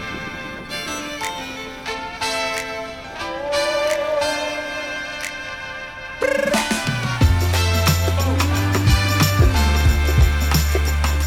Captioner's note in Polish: Aplauz